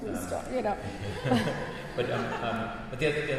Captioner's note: chuckling